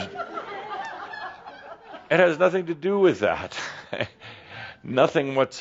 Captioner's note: laughter